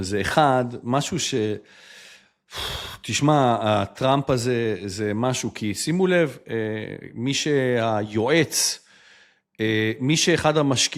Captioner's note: breathes heavily